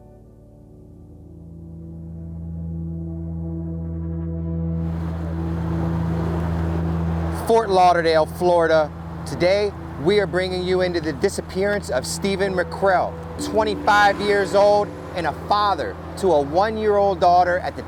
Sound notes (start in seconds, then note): 1.4 gentle music; 1.4 vehicle droning